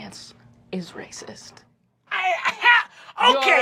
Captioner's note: scoffs